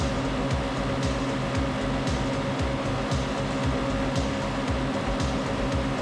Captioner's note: upbeat music; car engine roaring